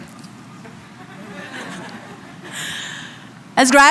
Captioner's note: laughs